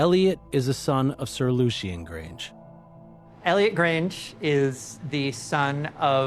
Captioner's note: none